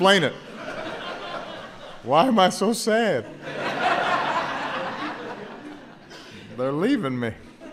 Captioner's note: laughter